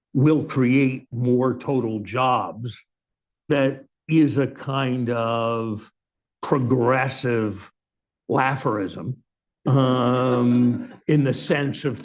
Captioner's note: laughter